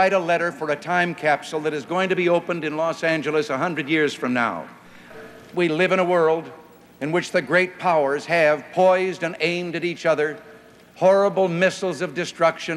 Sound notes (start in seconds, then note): none